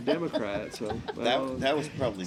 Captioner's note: laughing